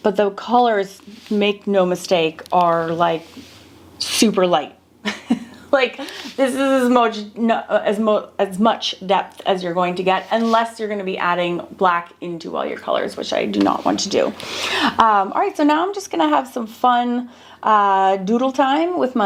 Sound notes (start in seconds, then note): 5.0 person laughing